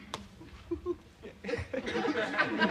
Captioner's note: chuckles